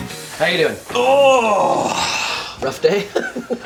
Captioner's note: grunts; laughter